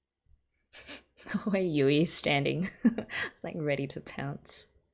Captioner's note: laughs